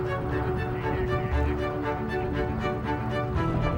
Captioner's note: engine roaring